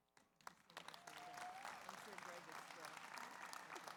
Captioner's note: audience applauds